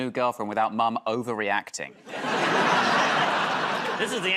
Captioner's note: laughter